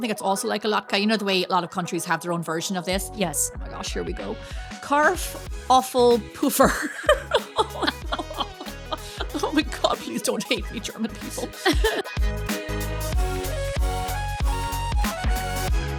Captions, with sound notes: that's also like a latke. You know the way a lot of countries have their own version of this? Yes. Oh my gosh, here we go. Carf, awful poofer. (laughing) Oh my God, please don't hate me, German people. (upbeat music)